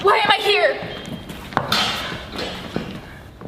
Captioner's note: door closes